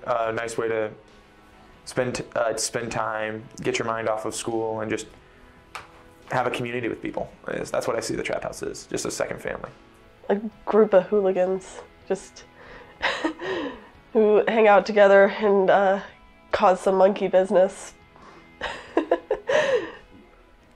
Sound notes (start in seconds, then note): 18.6 laughs